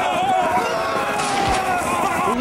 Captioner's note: gunshot